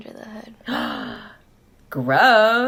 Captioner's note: 𝘴𝘤𝘢𝘯𝘥𝘢𝘭𝘪𝘻𝘦𝘥 𝘨𝘢𝘴𝘱